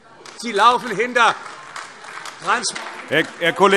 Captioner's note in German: Beifall AfD